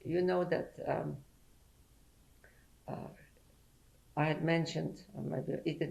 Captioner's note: pauses for 3 seconds